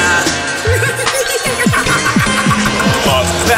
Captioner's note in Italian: Risata maniacale